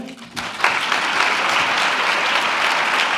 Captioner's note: applause